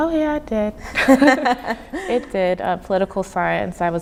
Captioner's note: laughing